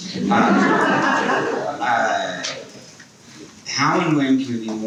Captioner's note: people laughing